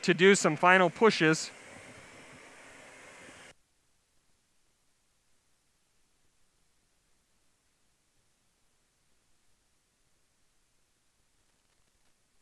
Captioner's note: sound of blowtorch; silence